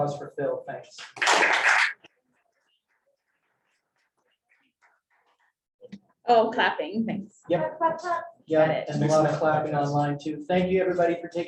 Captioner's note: applause